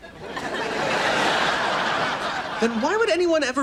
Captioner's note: audience laughs